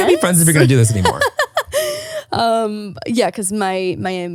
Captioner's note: laughing